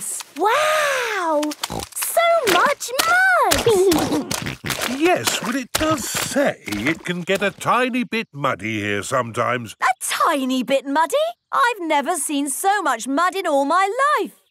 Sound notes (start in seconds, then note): 3.5 snorting